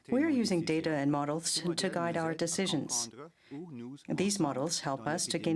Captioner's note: speaking french